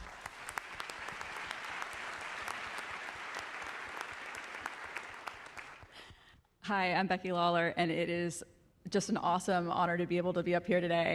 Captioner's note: applause